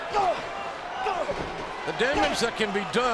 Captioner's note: CM Punk grunting